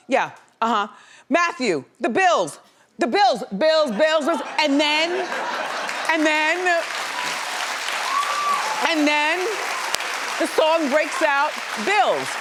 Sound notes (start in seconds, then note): 4.5 laughs; 5.2 audience clapping